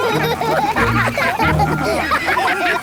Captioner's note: all laugh